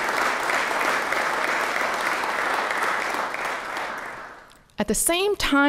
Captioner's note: applause